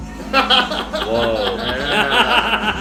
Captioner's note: laughter